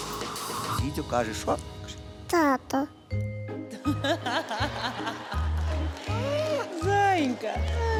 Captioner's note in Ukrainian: сміх